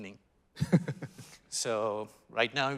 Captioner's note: laughing